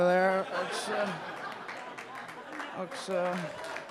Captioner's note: audience laughing; audience applauding